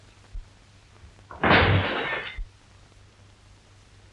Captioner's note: window breaking